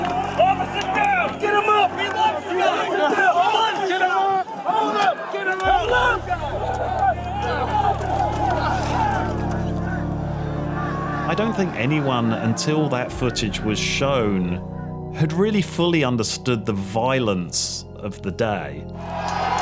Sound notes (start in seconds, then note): 2.2 officers shouting; 8.6 shouting continues